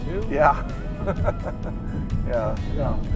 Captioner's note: laughing